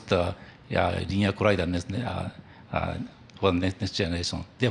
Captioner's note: stuttering